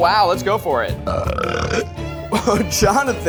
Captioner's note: burps